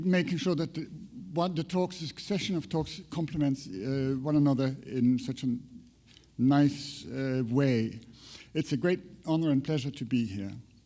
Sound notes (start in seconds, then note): none